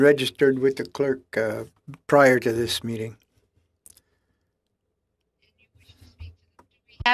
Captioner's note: speaking French